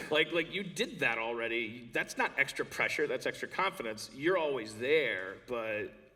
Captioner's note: none